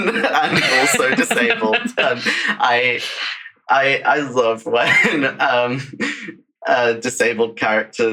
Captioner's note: laughs